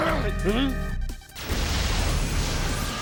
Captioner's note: whimpers